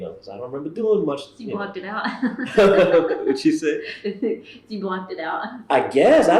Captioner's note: laughs